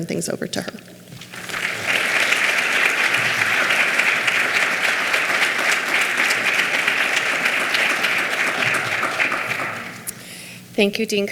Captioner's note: clapping